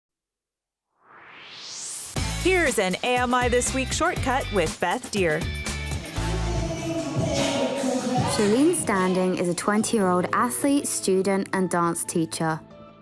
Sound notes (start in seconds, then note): 1.0 swoosh